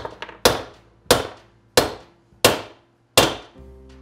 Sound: hammer pounding

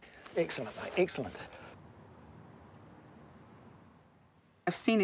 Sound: none

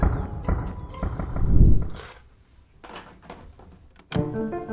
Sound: cards thumping

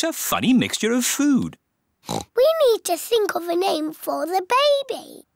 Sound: oinks

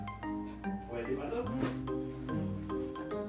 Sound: sniffed

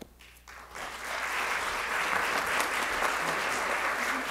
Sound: audience applauding

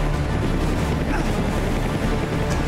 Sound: grunting

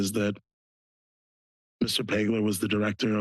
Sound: pause

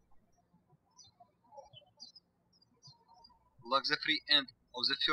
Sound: birds chirping

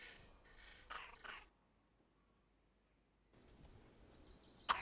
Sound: little girl coughs

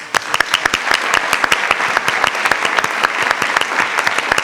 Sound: attendees applauding

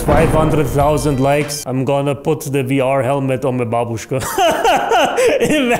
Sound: laughs for the millionth time

